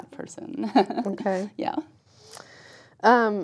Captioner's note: laugh